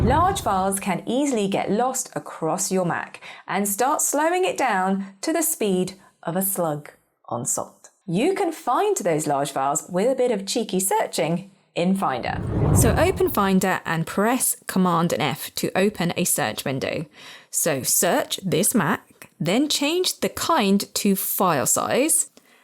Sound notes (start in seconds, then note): 0.0 air whooshing; 12.2 air whooshing